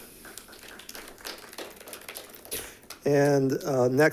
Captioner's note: group clapping